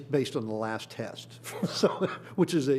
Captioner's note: laughs